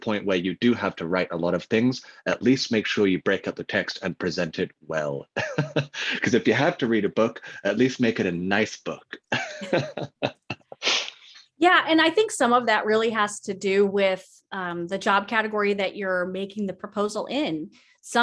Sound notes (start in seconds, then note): 5.2 laughs; 9.1 laughs